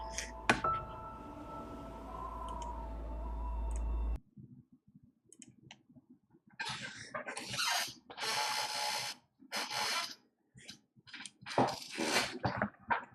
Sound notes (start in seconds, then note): 6.6 extremely squeaky chair